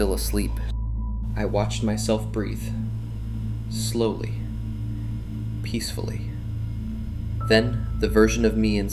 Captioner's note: voice trembling